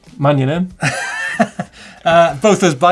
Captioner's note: laughs